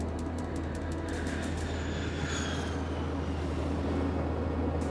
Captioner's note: plane whooshing